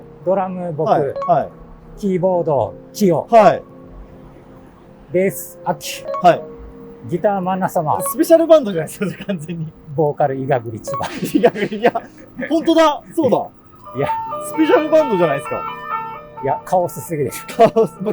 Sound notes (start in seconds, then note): 11.7 laughing